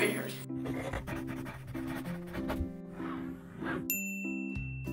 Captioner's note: scratching and bell